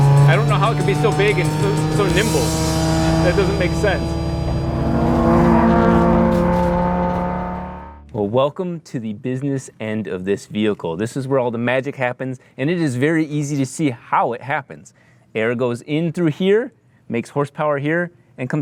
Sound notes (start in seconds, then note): 4.8 engine roaring